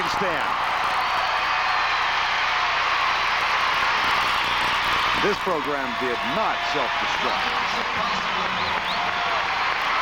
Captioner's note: cheers and applause